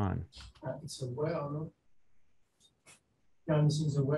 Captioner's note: faintly speaking